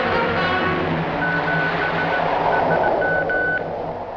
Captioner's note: beeping